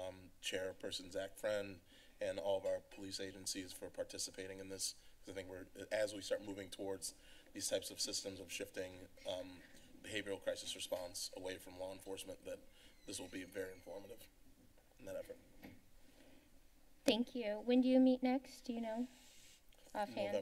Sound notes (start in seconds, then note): 15.6 silence